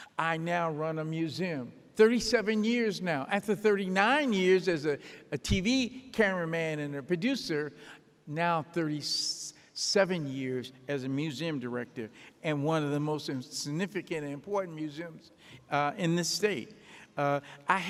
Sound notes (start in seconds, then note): none